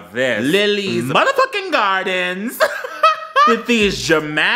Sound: laughs

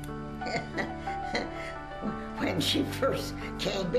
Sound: chuckles

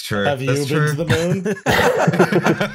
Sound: laughter

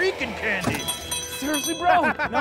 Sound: bell rings

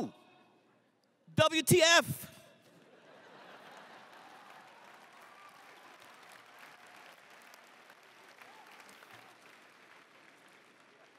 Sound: crowd laughs

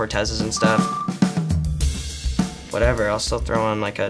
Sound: beeps

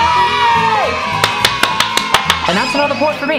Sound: children applauding

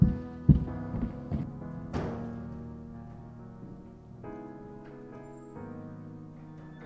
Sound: intense music; door bursts open

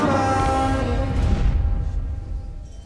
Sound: rumbling

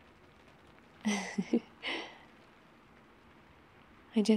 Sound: laughs

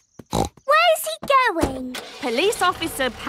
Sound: snorts

